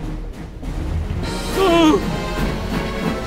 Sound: gasps

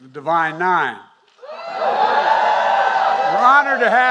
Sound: applause

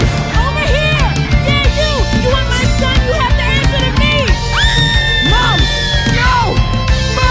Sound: Sally screams

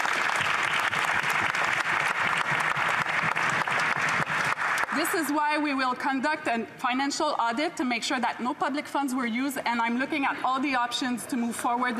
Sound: applause

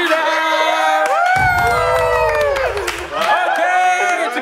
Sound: cheering

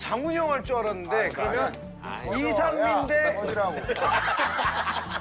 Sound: groaning

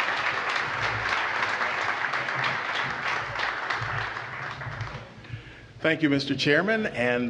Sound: applause

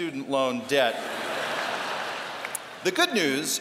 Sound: laughter

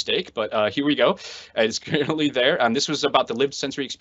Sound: laughs

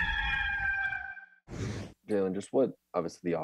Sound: rooster crowing; wind whooshing

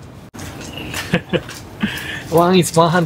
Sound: chuckles

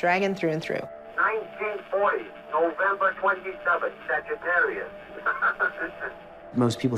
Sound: laughs

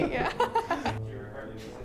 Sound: laughs

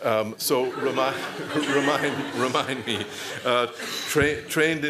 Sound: laughter

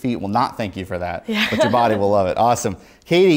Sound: laughs

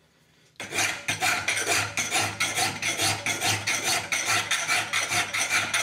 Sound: sound of metal being filed continues

